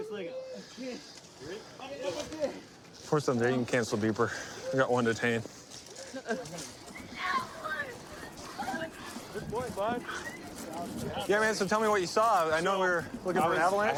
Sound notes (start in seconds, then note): 7.2 yelling